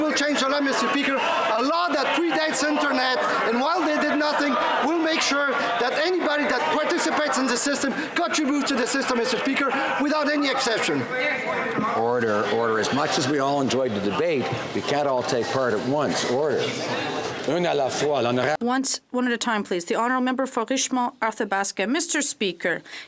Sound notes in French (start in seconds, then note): 9.0 voix de l'interprète